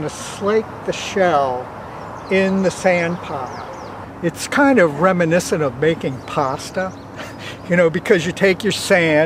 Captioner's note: chuckles